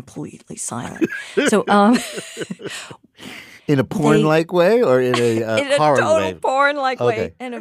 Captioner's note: laughs; laughs